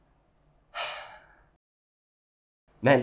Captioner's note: sigh